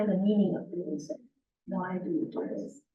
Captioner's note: muffled voice